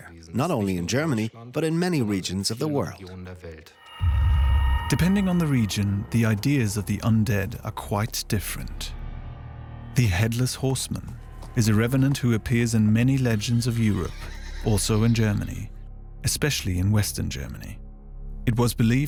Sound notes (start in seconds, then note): 3.7 eerie noises